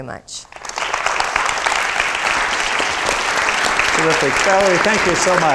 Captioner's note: crowd applauding